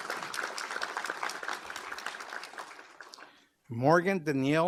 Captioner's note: applause